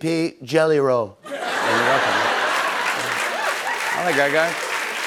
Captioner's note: laughter and applause